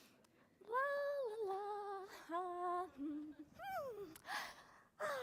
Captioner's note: humming playfully